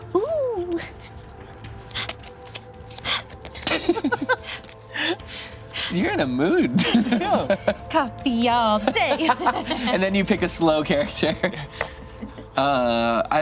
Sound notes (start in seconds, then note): 0.2 panting; 3.6 group chuckles; 11.3 laughs